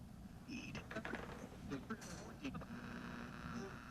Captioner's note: radio buzzing